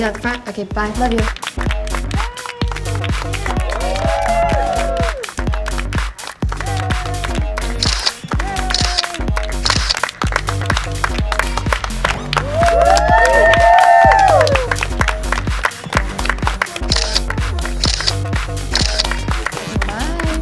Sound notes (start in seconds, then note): 4.3 crowd cheers and applauds; 7.8 camera clicks; 13.3 crowd cheers and applauds; 17.8 camera clicking